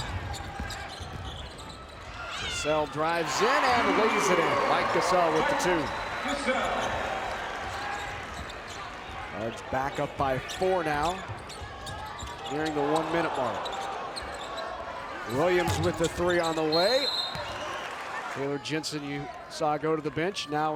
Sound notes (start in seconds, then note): 16.7 whistle blows